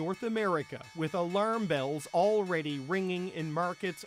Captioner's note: bells